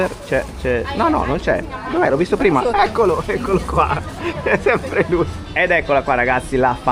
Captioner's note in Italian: risate